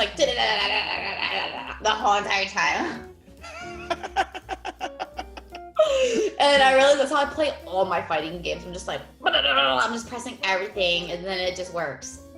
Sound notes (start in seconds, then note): 3.4 laugh